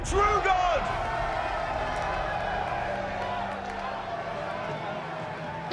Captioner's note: cheering